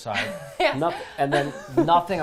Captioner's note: laughs